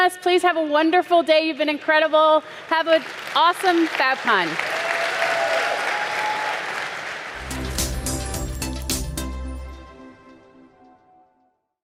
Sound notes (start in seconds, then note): 4.7 audience applauding; 7.3 bright music